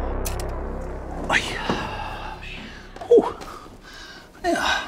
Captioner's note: sighs